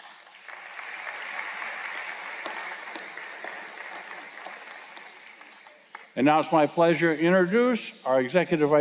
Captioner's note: applause